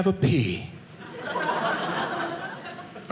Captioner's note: audience laughing